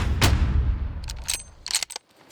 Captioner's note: rifle shot; bolt unloads shell